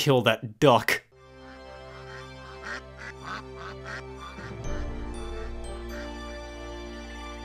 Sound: inspiring music; ducks quacking

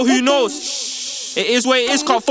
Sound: shhhhhhhh

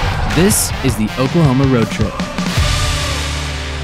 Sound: invigorating rock music; voiceover

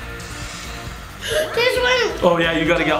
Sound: gasps

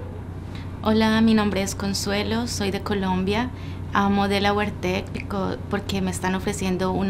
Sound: in Spanish

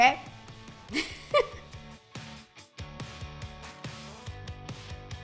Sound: giggling

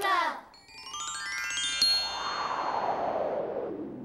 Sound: chimes

